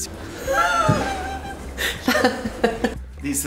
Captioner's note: laughing